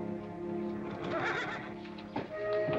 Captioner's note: horse neighs